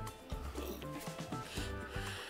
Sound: burping

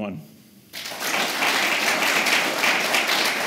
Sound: applause

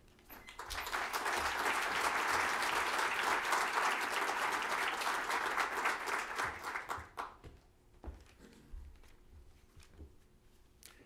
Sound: applause

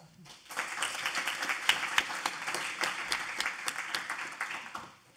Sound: audience applauding

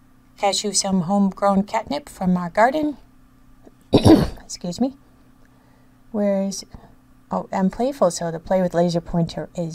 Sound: coughs

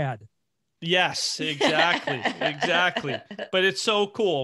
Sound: laughing

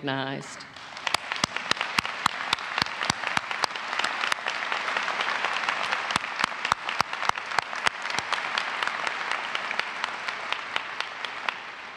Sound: applause

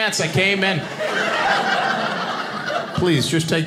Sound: audience laughing

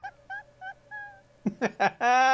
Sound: laughter

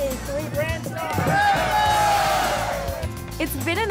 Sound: group cheers

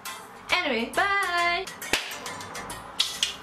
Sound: claps

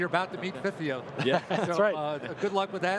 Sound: laughs

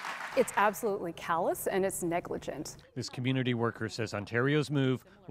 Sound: applause

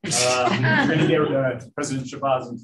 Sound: laughter

